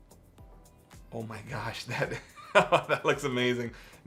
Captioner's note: laughs